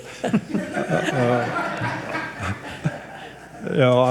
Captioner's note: audience chuckles